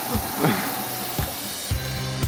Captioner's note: chuckles; upbeat music